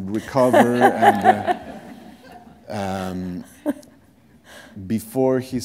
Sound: laughter

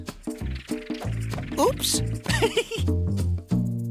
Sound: giggling

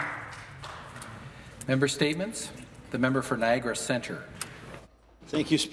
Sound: applause

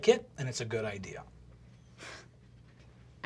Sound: scoffs

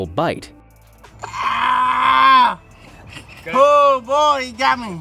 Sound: man groaning

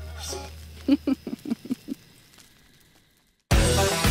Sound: laughs

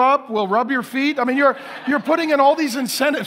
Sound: congregation laughing

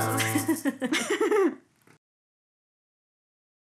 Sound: laughing

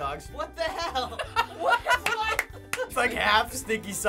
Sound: laughs

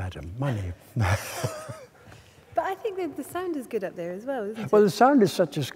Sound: laughing

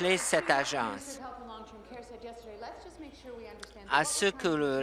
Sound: applause

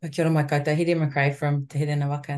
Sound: speaks in te reo Māori

